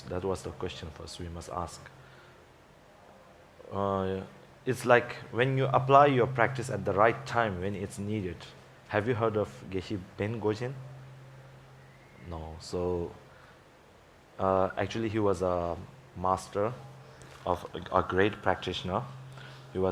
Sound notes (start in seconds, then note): 9.8 speaking in Tibetan